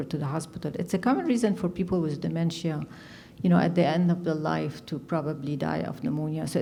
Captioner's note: none